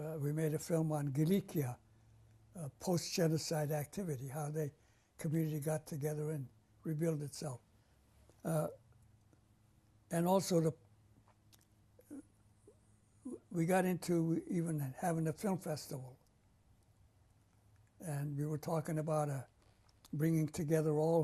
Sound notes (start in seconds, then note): 7.6 pauses for 3 seconds